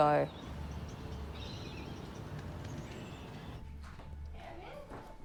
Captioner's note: birds twittering